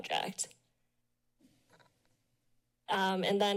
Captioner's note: pause